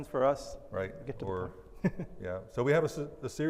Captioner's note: laughs